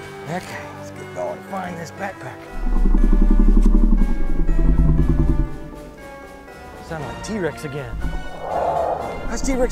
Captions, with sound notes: Okay, let's get going and find this backpack. (T-rex growling) Sounds like T-rex again. (T-rex growling)